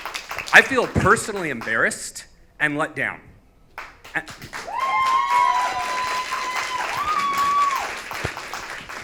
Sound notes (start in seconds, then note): 4.5 audience cheers